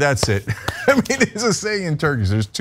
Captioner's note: laugh